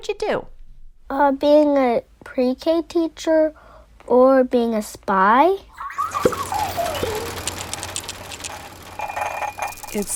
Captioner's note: Sound of the Whoa Gizmo shaking, rattling